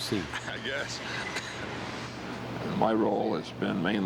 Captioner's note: laughs